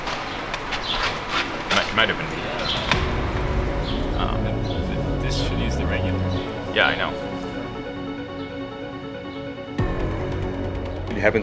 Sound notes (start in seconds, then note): 0.0 background sound of working and chatter; 3.5 more chatter about what might be wrong with the robot; 8.2 intense music